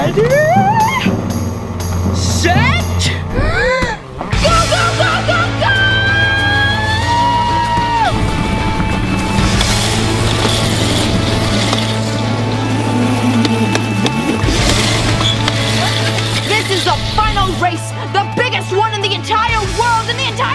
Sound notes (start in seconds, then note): 7.4 rock music playing; 10.7 engines revving